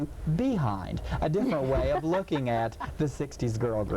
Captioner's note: laughing